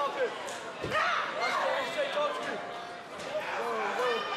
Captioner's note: crowd chatter